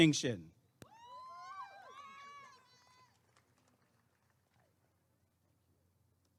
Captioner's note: applause and cheering